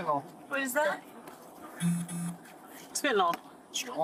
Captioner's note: phone vibrating